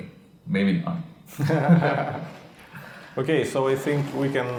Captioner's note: laughing